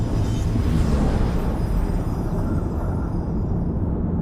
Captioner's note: dramatic sound